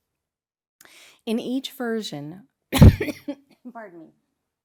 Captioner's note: coughs